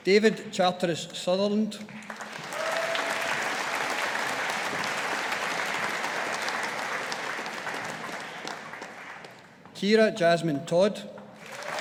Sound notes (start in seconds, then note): 1.9 audience applauding